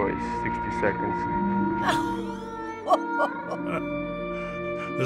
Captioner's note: laughs; chuckles